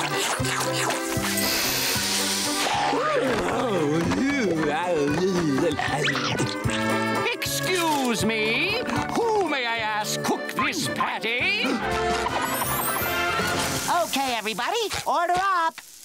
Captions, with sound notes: [sniffing] Excuse me, who may I ask cooked this patty? Okay everybody, order up!